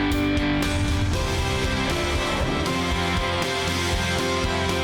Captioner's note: screen whooshing